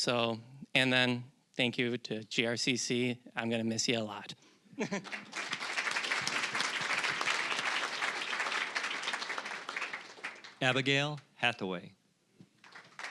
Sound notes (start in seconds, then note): 5.0 applause